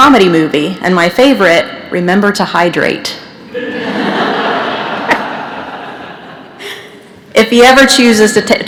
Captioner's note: laughter